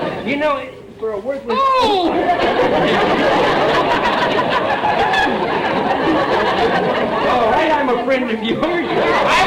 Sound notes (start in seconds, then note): 2.1 audience laughter